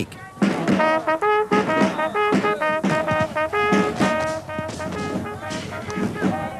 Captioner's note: rhythmic drumming; horn trumpeting